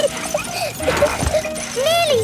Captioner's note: peppa laughing